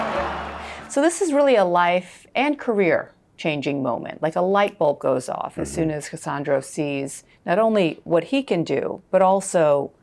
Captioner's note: crowd chanting